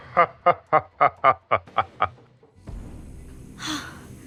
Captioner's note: laughing